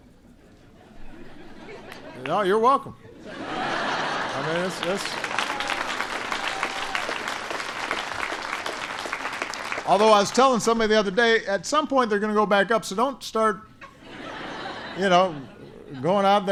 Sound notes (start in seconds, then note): 0.5 laughter; 3.2 laughter and applause; 13.8 laughter